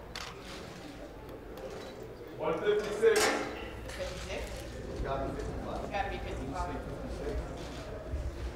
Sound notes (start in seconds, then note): 3.8 people chattering